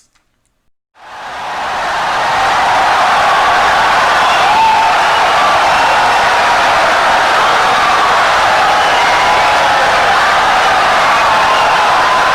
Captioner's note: wild applause and cheering for 17 seconds